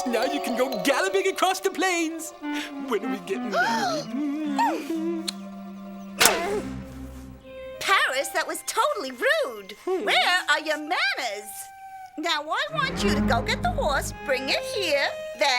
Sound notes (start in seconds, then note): 3.6 Helen gasps